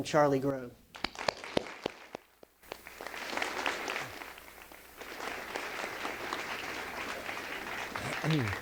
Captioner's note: applause